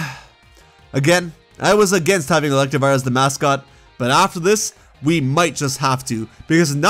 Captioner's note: sigh